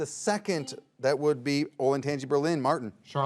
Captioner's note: buzzer beeps